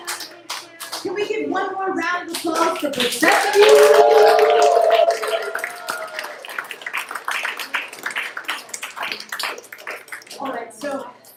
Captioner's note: applause